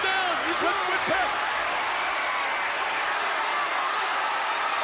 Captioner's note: crowd cheers